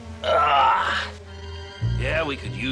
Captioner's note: grunting